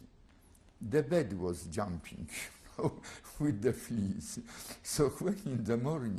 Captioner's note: laughs